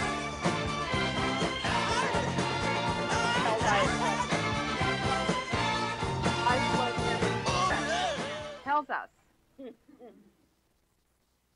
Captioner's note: laughter